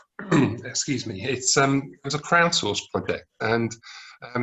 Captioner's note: clears throat